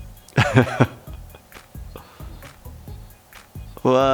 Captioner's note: slow upbeat music; laughing